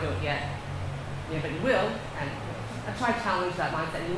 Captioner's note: none